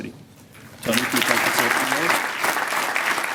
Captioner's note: applause